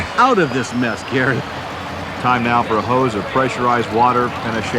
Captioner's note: voiceover